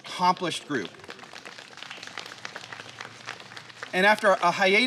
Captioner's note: applause